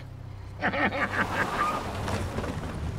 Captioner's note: tires screech; laughing